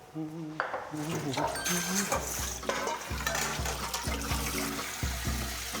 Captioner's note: he hums as he starts doing the dishes